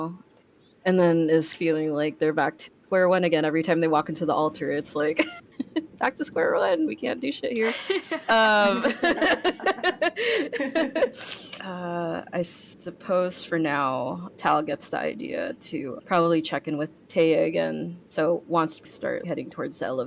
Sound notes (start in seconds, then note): 7.6 laugh